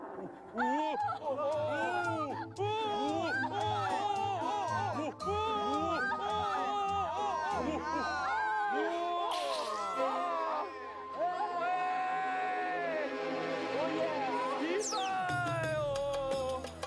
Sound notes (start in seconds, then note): 5.4 screaming